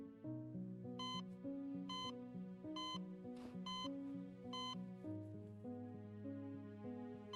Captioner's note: reflective music continues; machine continues beeping